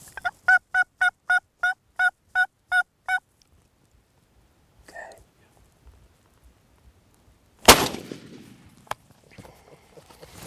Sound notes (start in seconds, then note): 0.4 turkey calling; 7.6 shotgun firing